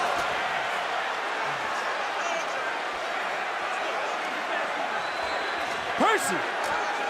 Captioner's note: crowd chatter